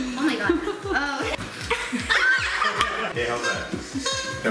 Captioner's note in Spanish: gritos y risas